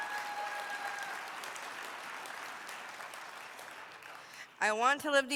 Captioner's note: applause